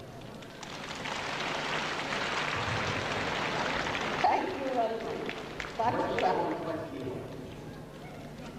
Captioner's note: applause